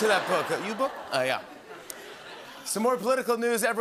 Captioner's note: laughter